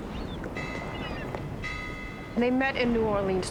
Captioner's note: buoy ringing